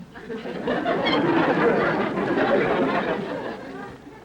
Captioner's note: audience laughter